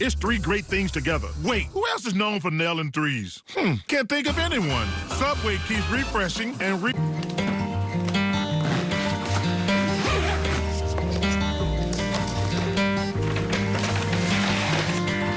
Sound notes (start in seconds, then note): 7.0 upbeat, acoustic guitar; 11.1 zipper closing bag